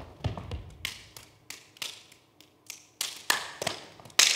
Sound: hands clapping

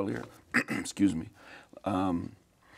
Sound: coughs

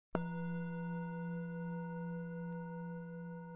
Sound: bowl bell clangs

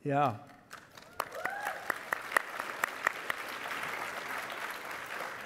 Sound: audience applauding and cheering

